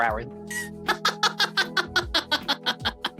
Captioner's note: laughing